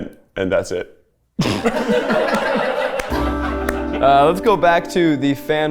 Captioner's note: everyone laughs